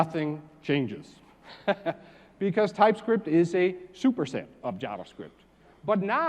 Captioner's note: laugh